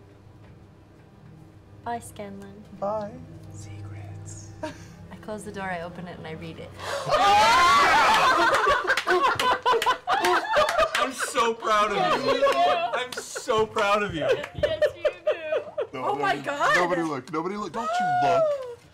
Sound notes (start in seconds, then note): 3.6 whispers; 10.0 cheering